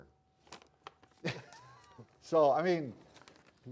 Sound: both chuckling

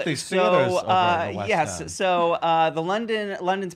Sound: voice muffled

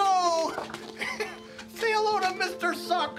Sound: laughs

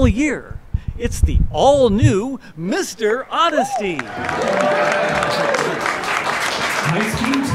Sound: applause

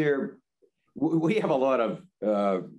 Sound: laughs

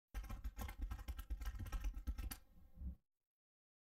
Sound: keyboard keys clicking

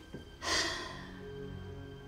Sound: sigh

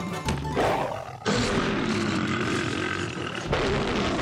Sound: roaring

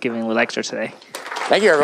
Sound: applause

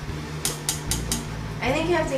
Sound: tongs clicking

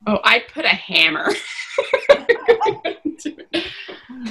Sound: laughter

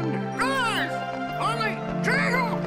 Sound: squawking

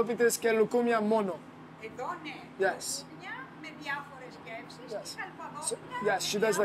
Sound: speaking Greece

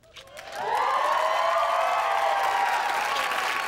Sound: audience cheering

